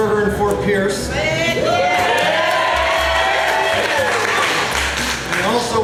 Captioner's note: crowd cheering